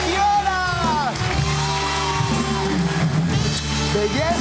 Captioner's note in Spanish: Aplauden